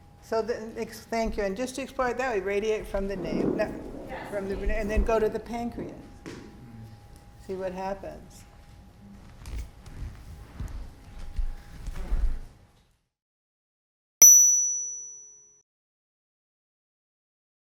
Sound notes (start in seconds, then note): 9.8 feet thudding; 14.2 bell chiming